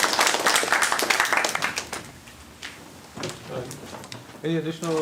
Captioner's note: applause